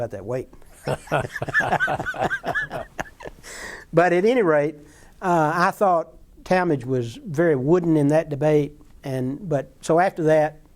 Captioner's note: laughter